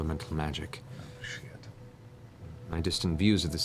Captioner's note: whispering